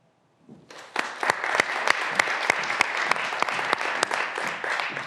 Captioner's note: graduands applauding